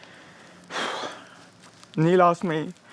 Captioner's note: exhales